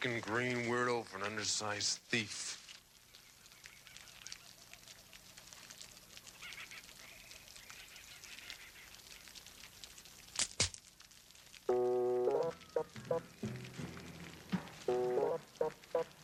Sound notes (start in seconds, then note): 10.3 twig snapping; 12.5 upbeat music